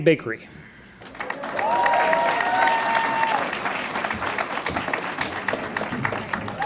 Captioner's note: audience cheers and applauds